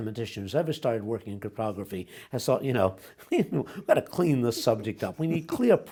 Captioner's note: laughs